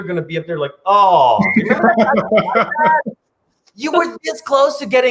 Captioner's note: laughs